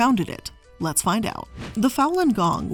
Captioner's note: air whooshing